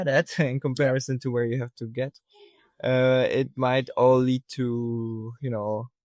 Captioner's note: chuckles